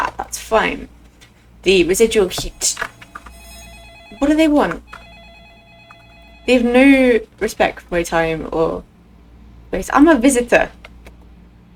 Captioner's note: phone rings